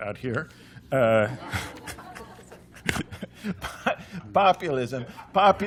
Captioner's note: laughter